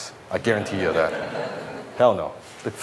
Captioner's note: audience laughs